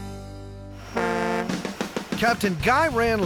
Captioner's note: boat horn